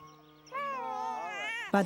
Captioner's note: baby crying